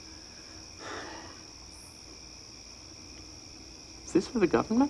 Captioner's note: sighs